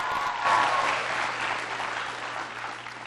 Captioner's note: applause